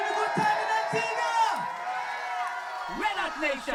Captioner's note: loud cheer